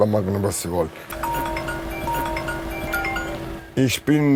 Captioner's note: ringing